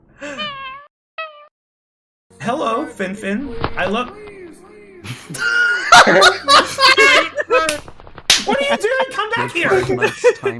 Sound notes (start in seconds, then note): 0.2 weird meowlike sounds; 3.4 flapping of wings; 5.1 everyone laughing